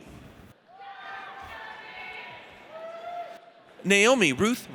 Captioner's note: audience cheers